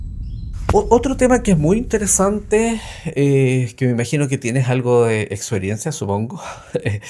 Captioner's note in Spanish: suspiro